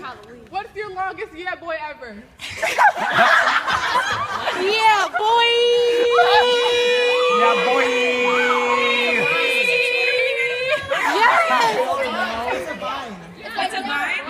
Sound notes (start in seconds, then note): 2.5 audience laughs